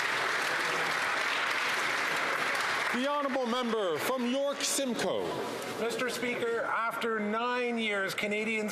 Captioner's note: some Applause